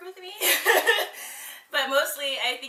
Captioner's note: laughs